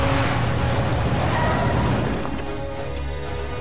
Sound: engine stops; brakes grinding

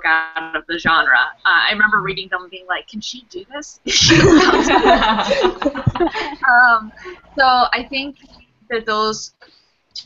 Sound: laughter

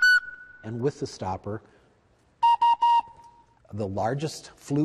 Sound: whistle blow; whistle blow

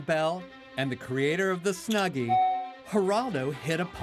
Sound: chime

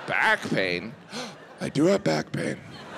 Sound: gasping

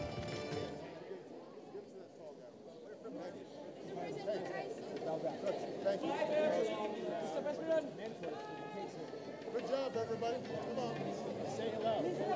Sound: applause

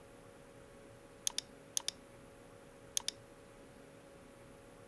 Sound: mouse clicking

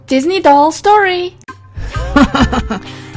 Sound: laugh

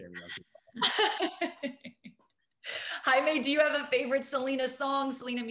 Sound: laughs

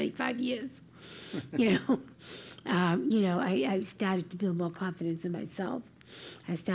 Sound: laugh

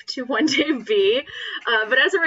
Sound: laughs

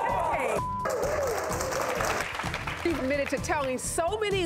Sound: applause

